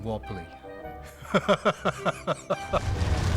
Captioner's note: laughs